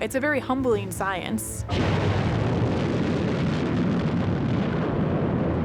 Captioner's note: rocket launching